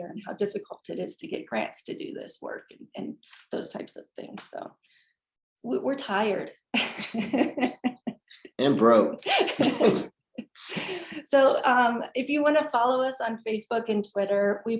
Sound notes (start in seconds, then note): 7.0 laughing; 9.2 both laughing